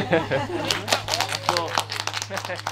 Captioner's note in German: Applaus